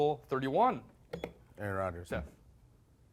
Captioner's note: beep